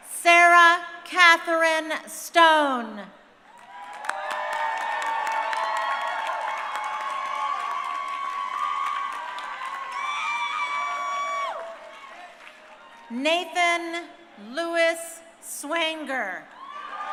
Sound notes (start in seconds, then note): 3.8 crowd cheering; 16.4 crowd cheering